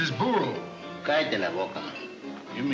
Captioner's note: Pancho in foreign language